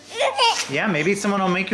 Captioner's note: squeals